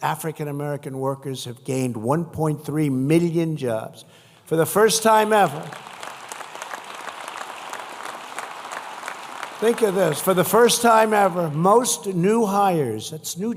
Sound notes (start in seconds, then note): 7.5 applause